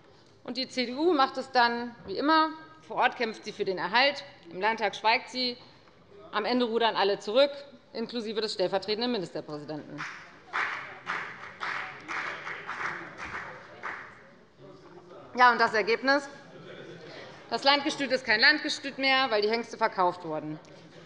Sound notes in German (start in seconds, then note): 10.0 Beifall bei der FDP